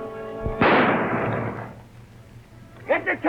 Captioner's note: gun fires